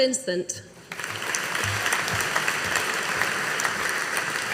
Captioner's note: audience applauding